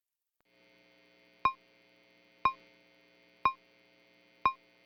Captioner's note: beeping